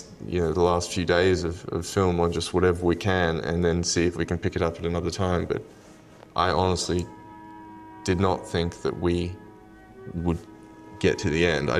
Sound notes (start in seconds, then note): none